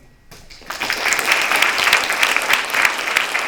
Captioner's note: applause